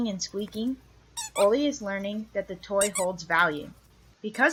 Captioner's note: squeak, squeak